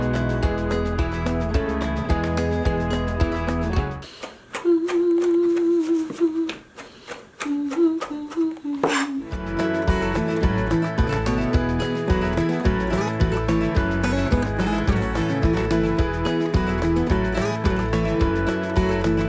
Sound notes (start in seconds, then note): 4.5 humming; 9.4 calm music